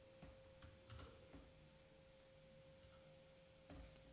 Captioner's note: typing